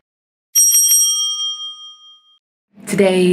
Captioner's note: bell rings